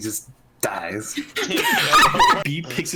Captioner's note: laughter